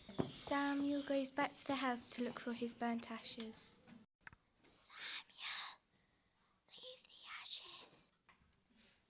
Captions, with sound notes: Samuel goes back to the house to look for his burnt ashes. [whisper] Samuel leave the ashes.